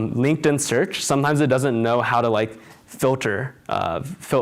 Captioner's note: none